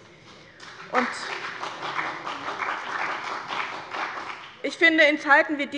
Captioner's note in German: Beifall bei dem BÜNDNIS 90/DIE GRÜNEN und der FDP